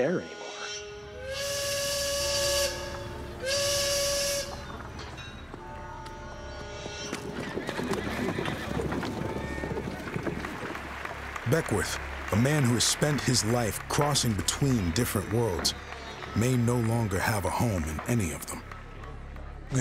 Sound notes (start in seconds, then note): 0.4 train whistle blowing; 6.5 hoofbeats, horses neighing